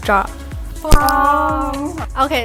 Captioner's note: drops mic